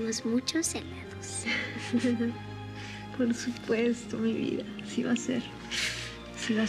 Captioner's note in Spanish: risas